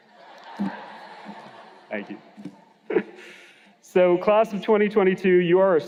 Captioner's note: laughter